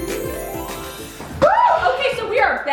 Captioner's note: whooping